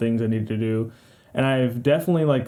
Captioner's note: breath in for life support